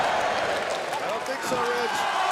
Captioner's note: crowd cheering